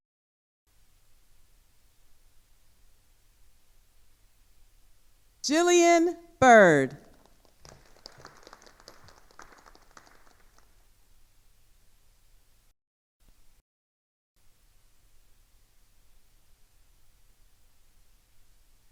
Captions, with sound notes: Jillian Byrd. (attendees applauding)